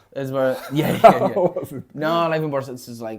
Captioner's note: laughs